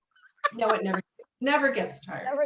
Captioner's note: laughs